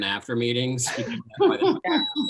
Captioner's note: laughing